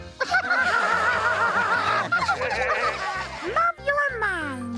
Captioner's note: laughing